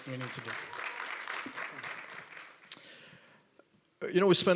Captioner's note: applause